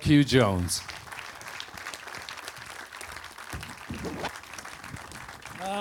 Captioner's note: audience applause